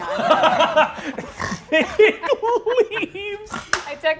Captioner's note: Brennan laughs